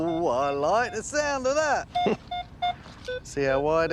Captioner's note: laughs; beeping